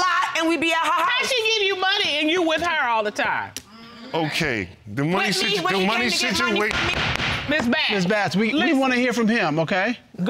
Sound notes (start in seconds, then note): 6.6 gavel banging